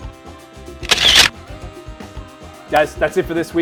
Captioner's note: camera clicking